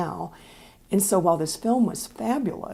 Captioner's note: none